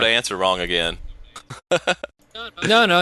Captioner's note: laughing